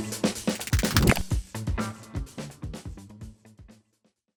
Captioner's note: graphic clicks